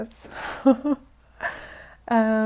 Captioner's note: laughs